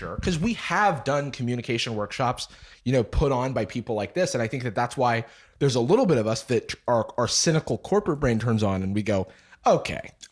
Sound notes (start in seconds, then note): none